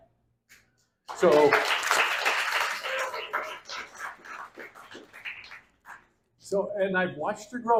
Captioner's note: applause